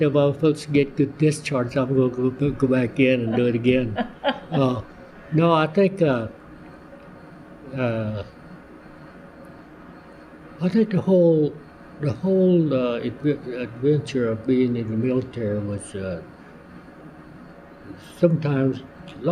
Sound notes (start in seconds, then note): 3.2 laughter